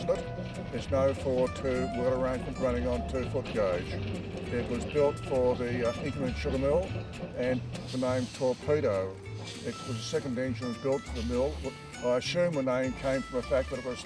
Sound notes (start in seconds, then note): 4.4 locomotive chugging; 8.6 engine steam hissing